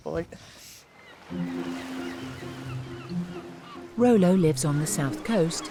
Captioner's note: gulls squawking; gentle upbeat music